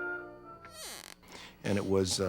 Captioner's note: squeaky rocking chair